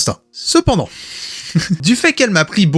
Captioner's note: laughs